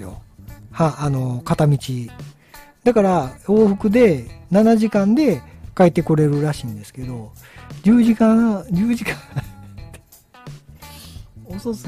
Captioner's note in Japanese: 笑い